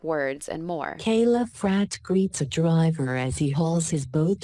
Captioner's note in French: Voix automatisée